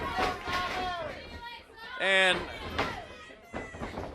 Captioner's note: crowd chatter